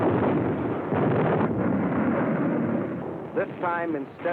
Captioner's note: explosions